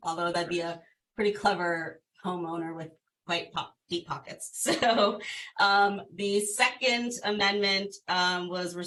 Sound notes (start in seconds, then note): 4.6 laughter